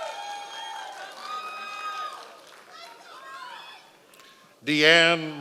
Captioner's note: members of the audience cheering